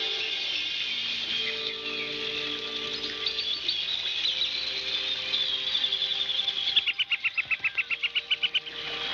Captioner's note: cawing